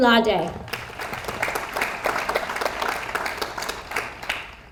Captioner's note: audience applauds